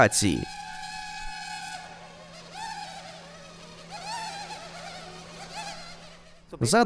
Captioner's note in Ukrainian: дзижчання робота